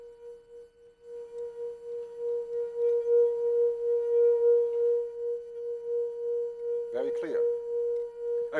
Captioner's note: plays high tone